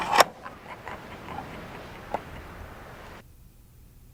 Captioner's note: Boomer Chuckles Sinisterly